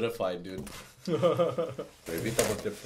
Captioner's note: laughs